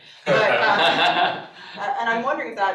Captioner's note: all laughing